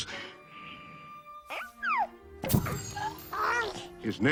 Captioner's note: Hercules cooing